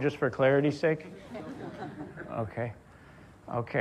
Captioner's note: audience laughs